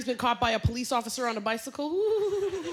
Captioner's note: laughter